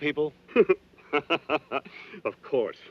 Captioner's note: laughing